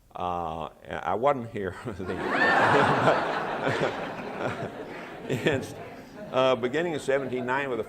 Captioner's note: laughter